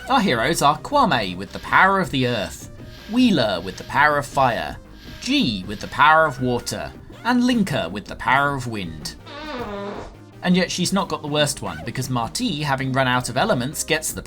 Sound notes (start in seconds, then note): 9.2 fart sfx